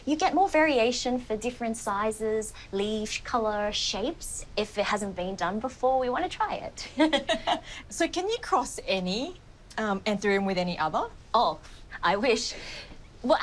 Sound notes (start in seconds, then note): 6.8 laughs